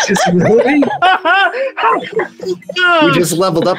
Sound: people laugh

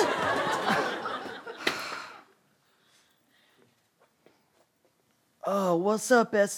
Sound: sighs

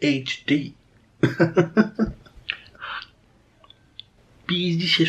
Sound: laughing

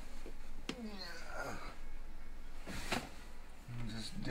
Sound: grunting

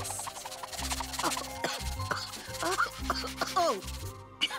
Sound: coughs

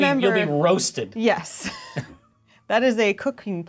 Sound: laughs

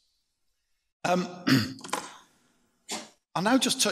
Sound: clears throat

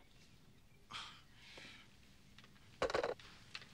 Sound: sighs

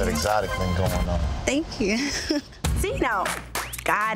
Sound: giggles

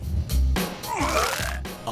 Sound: puke Sound

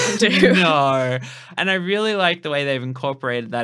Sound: laughing

